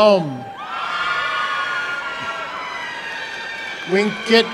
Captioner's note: applause and cheering